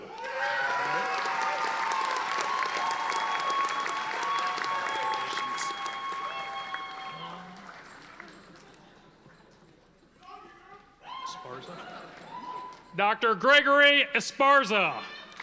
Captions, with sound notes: (audience applauding) Dr. Gregory Esparza.